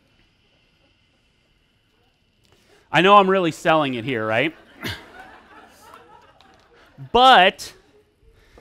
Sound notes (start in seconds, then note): 3.8 audience laughs